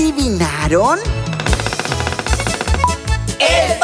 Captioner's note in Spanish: Sonido de pájaro carpintero